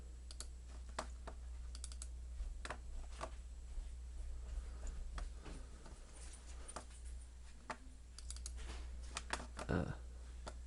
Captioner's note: clicking